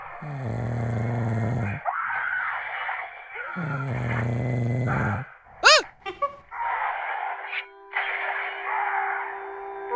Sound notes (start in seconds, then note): 5.6 screams